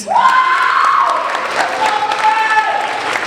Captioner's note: applauding